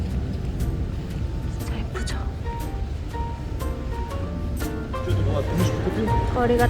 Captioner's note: whispering